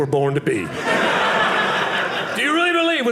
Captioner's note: audience laughing